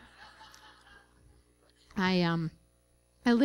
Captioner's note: laughter